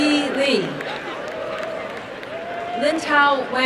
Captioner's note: applause and cheering